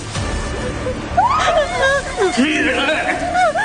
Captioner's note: sobbing